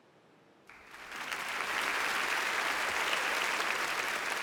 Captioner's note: audience applauds